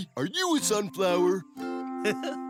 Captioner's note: giggles